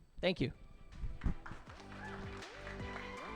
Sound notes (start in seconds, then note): 0.6 uplifting music; 1.2 audience applauds